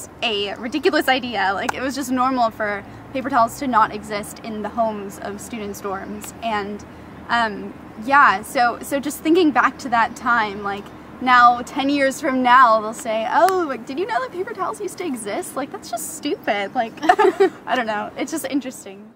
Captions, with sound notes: That was a ridiculous idea. Like it was just normal for paper towels to not exist in the homes of student's dorms and yeah so thinking back to that time, like now ten years from now they'll say, "oh... did you know that paper towels used to exist?" That's just stupid. I don't know (laughing) it's just interesting...